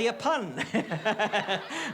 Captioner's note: laughs